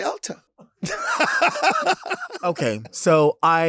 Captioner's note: Lady Bunny laughs